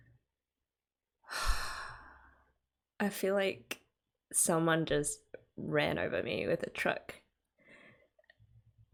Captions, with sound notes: [breathes] I feel like... someone just ran over me with a truck.